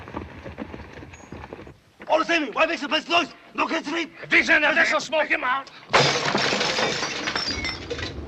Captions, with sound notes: All the same, why make so much noise? No can sleep. If he's in there, this'll smoke him out. (glass shatters)